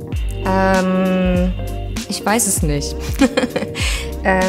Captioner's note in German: lacht